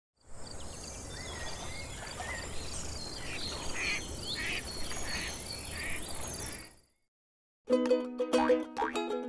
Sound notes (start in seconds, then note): 0.2 birds chirping; 4.3 ducks quacking